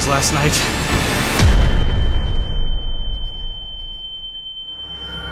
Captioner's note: high-pitched ringing